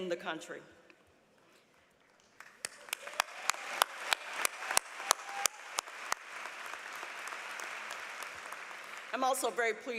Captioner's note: applause